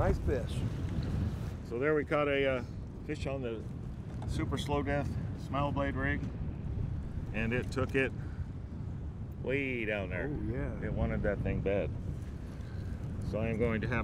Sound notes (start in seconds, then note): none